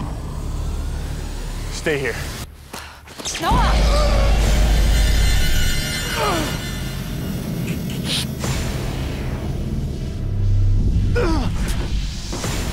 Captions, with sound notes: - Stay here. - Stop! (static whirring) (groaning)